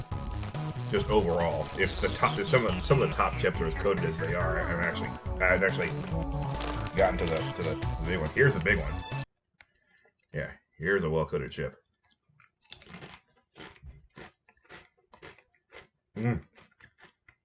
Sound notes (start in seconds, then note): 9.4 music stops for respect; 11.8 increasingly happy crunches